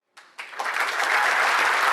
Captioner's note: applause